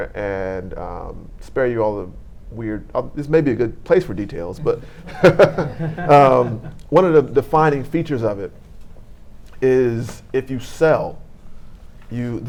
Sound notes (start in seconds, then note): 4.5 laughing